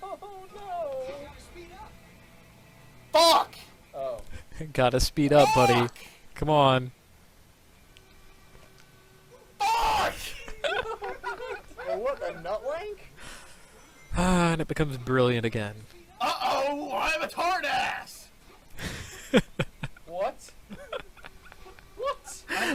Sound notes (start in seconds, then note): 9.6 laugh; 18.6 laughs